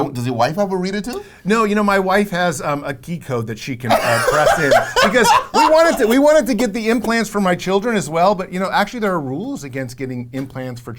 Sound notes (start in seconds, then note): 3.9 host laughs